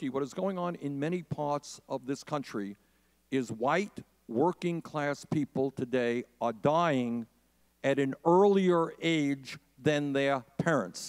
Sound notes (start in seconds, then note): none